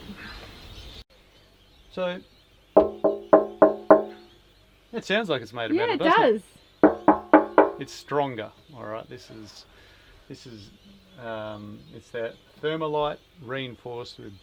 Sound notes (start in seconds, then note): 2.8 metallic knocking